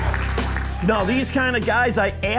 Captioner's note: voiceover